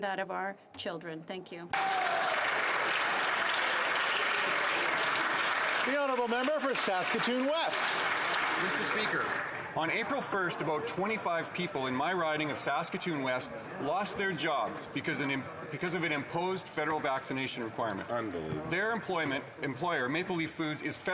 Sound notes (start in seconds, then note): 5.6 applause